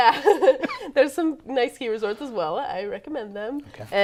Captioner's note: chuckles